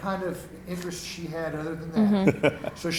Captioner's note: laughing